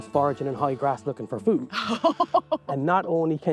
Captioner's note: laughs